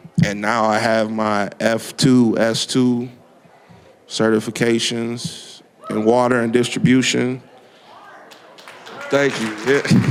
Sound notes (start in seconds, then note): 8.2 applause